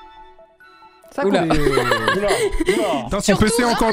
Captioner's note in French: rire